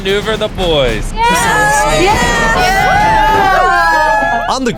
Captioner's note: cheering